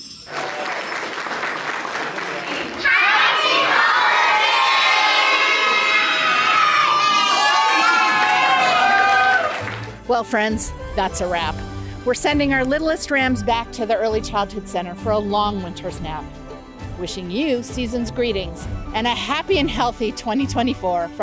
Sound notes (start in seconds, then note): 0.2 crowd applauding; 7.4 adults whooping and clapping